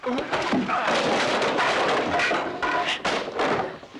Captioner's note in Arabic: خرخرة